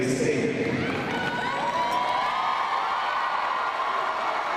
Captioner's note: crowd cheering